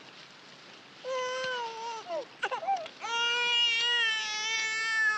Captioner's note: baby crying